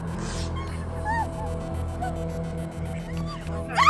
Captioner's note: person screaming